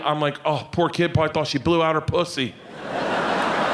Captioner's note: audience laughing